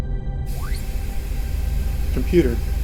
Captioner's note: device beeping